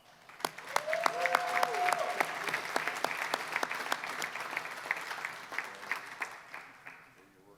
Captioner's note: applause